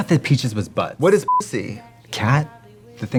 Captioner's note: beeping